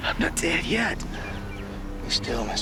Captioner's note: says in a weak voice